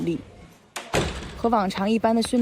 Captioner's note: Sample 4: The sound of the door closing